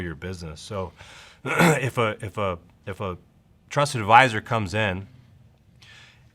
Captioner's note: clears throat